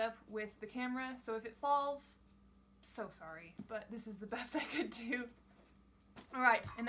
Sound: while laughing

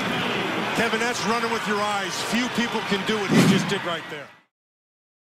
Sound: woosh

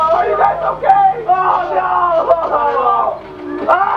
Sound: sobs* OH NOOO; ahhhh

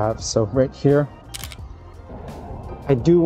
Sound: camera clicking

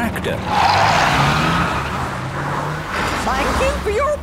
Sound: tires screeching

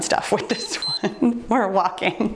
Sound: timer beeps

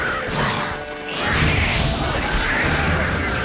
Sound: flames whoosh

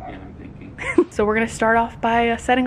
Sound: laughs

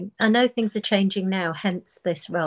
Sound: none

